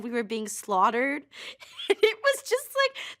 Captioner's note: chuckles